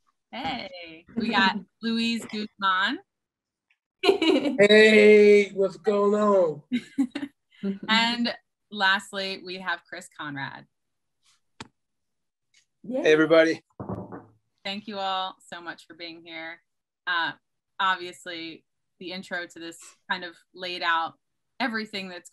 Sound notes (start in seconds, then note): 4.0 chuckles; 6.8 chuckles